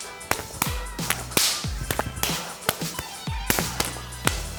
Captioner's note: hands slapping in combat